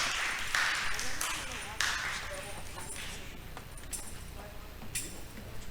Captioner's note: audience chattering